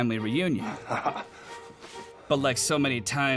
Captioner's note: chuckles